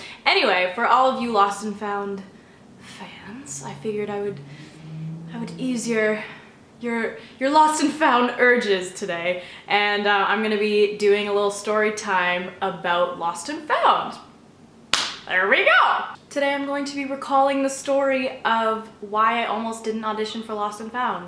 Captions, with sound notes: anyway! for all of you Lost & Found fans i figured i would ease your your -- your Lost & Found urges today and i'm gonna be doing a little story time about Lost & Found *slaps knee* there we go! today i'm going to be recalling the story of why i almost didn't audition for Lost & Found